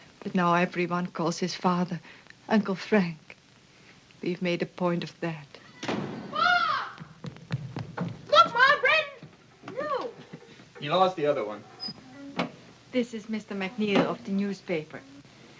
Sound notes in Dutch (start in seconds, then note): 5.8 deur slaat dicht; 5.9 rennende voetstappen